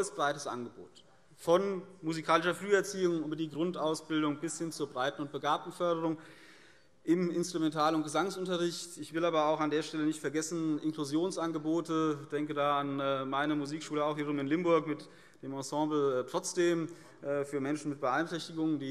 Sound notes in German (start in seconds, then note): none